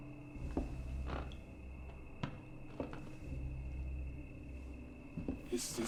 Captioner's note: floorboards creaking